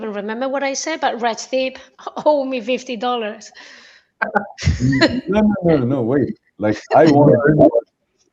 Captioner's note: laughter